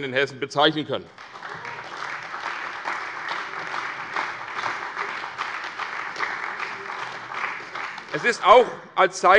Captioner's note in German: Beifall bei der CDU und dem BÜNDNIS 90/DIE GRÜNEN